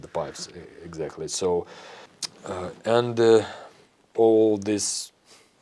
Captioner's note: lip smack